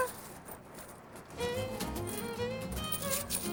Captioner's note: coins rattling